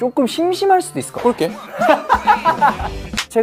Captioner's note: laughs